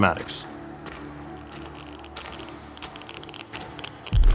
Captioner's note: footsteps, sensor crackles